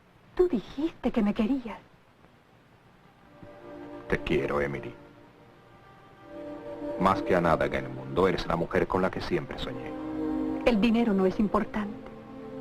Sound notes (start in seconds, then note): none